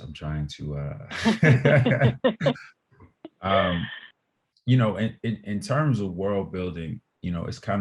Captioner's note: laughter